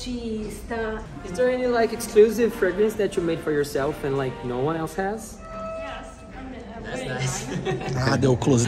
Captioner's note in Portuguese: conversa em inglês